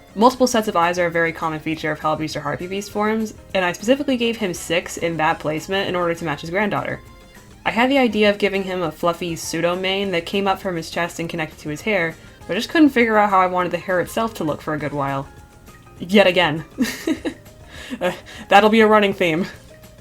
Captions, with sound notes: Multiple sets of eyes are a very common feature of Hellbeast or harpy beast forms, and I specifically gave him six in that placement in order to match his granddaughter. I had the idea of giving him a fluffy pseudo-mane that came up from his chest and connected to his hair, but i just could not figure out how I wanted the hair itself to look for a good while. Yet again. *laughs* That'll be a running theme.